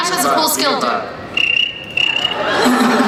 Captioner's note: cricket chirping; laughing